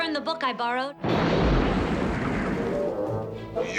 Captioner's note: thunder cracking